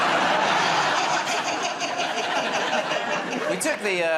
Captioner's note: laughter